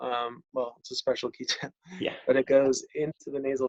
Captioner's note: giggles